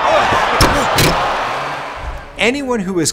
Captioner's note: crowd chattering; ball thuds